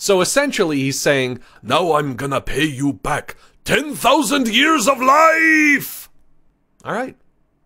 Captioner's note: foreign accent